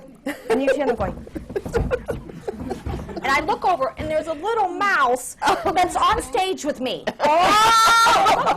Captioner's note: whispering